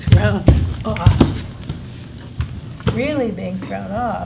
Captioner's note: soft thud